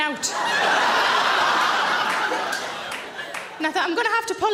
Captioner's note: audience laughs